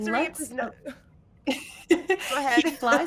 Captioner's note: laughing